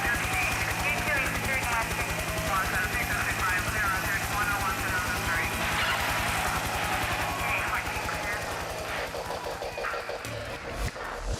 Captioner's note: helicopter and radio noise